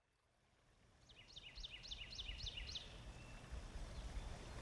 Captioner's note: bird tweeting; water trickling